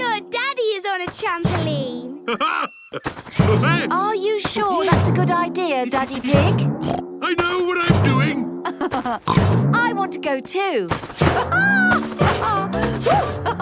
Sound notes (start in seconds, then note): 2.1 laughs; 8.6 laughs; 9.0 snorts; 11.0 laughs